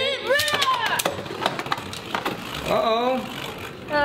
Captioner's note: metal and plastic clanking